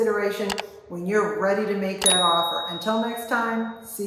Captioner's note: bell dings